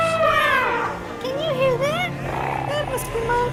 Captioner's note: elephant trumpeting